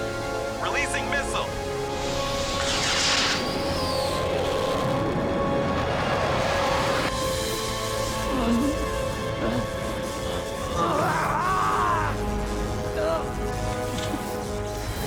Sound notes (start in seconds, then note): 8.2 groaning weakly; 10.7 screaming